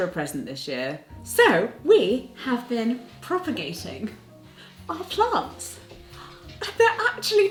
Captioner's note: gasping